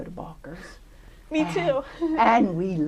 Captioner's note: laughter